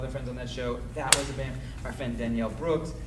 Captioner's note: banging drowns out speaker